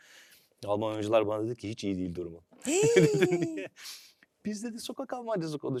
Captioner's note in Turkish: kahkaha